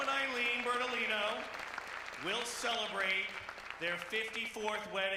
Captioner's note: applause